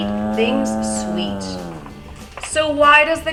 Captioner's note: cow moos